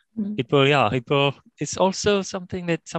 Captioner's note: audio distorts